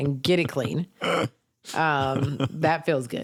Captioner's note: laughs